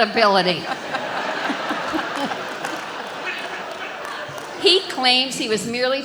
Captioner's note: audience laughs